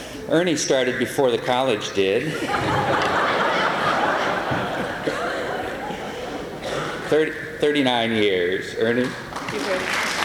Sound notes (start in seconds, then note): 2.2 laughter; 9.3 applause